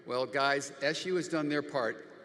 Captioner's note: none